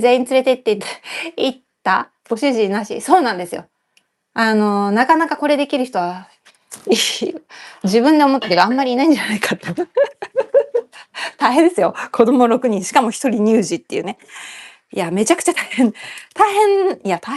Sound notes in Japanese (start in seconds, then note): 9.6 笑い